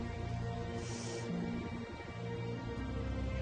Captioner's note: sniffs